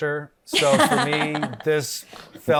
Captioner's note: Desi laughs